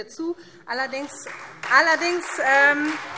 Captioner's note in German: Beifall Freie Demokraten